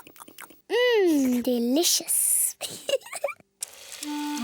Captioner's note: giggles